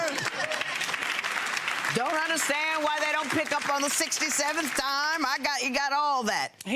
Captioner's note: audience claps